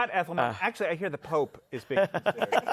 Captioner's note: laughter